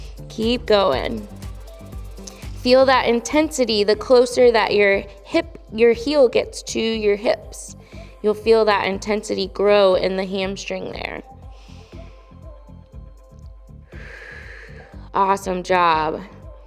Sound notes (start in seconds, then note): 11.6 inhales; 13.8 exhales